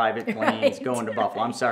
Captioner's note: laughs